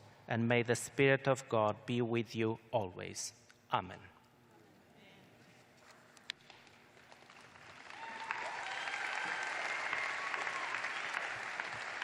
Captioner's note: cheers and applause